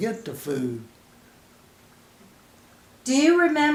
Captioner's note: silence